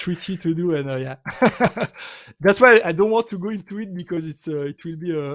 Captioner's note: laughs